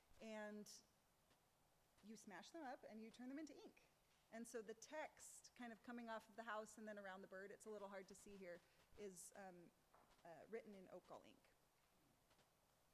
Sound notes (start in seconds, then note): none